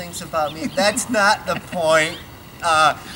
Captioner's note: laughs